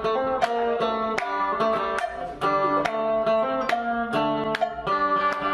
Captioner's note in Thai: ปรบมือ